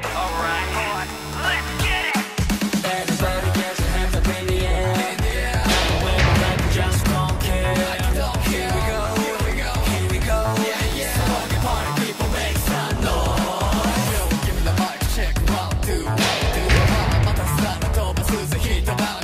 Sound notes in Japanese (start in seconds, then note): 0.0 開演ブザーの音; 11.8 開演ブザーの音